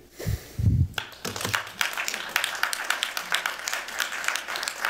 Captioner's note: applause